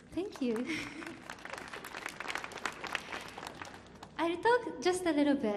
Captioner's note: audience clapping